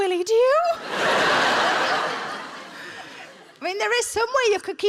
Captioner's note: audience laughing